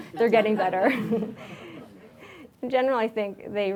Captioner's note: audience laughs